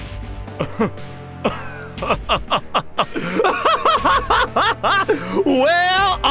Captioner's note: arrogant As All Hell Laughter